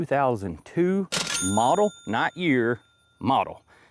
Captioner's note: bell Ringing